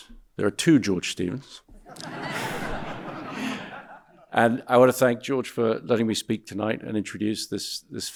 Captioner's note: audience laughing